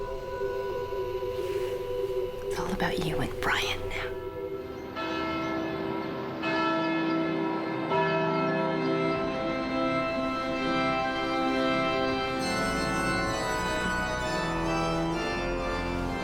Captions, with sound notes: IT'S ALL ABOUT YOU AND BRYANT NOW. [BELLS CHIMING] [ORGAN PLAYING]